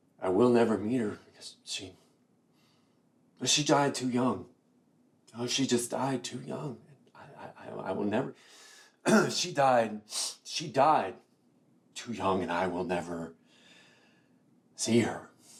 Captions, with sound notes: I will never meet her, because she, she died too young. Oh, she died too young. I will never... (clears throat) She died, she died too young and I will never see her.